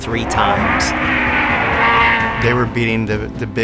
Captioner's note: engine revving